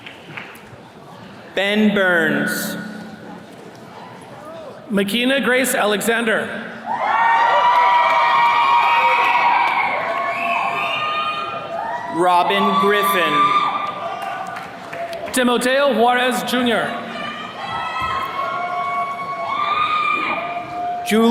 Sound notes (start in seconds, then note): 0.0 attendees clapping; 6.8 attendees cheering; 17.8 attendees cheering